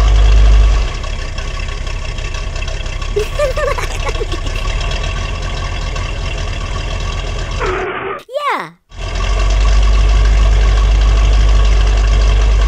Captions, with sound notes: giggling [ skid] yeah